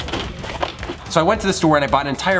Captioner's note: boxes hitting cart; rattling cart